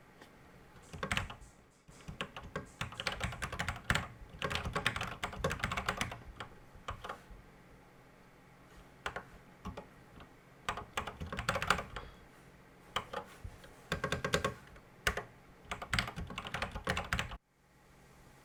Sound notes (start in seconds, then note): 1.8 typing on a C64 keyboard